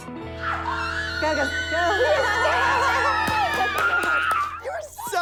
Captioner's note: screaming